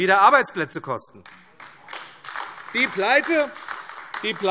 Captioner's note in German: Beifall AfD